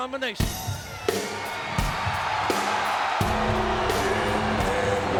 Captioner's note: audience cheering; rock music